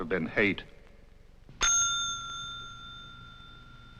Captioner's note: Charlie Towman rings the desk clerk's bell